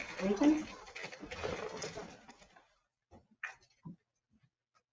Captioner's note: chairs shuffling